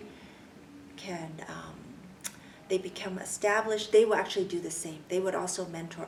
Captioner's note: clicks tongue